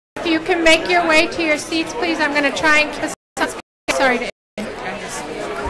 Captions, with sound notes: I'm going to try to (audio stutters).